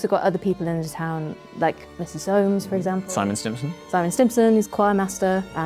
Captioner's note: none